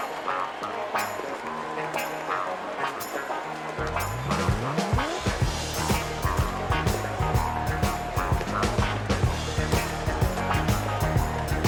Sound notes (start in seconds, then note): 5.4 cheers and applause